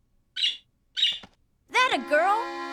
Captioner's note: chirping